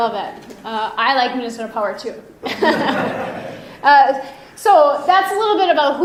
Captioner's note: pleasant laughing